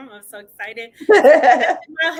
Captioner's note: laughing